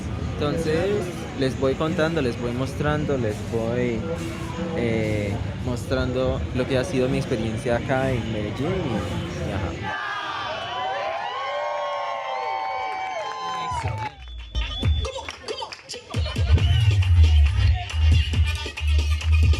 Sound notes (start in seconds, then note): 9.8 crowd cheering